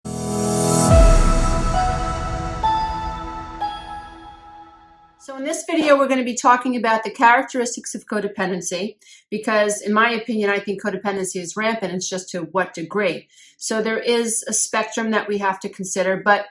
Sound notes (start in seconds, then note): 0.0 whoosh